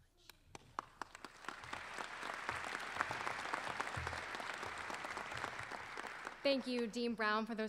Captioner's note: applause